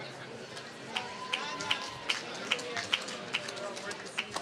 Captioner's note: applause